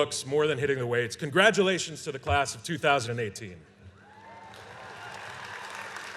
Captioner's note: applause